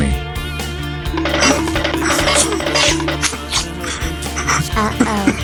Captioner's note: crying